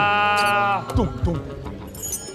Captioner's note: comes with his own sound effects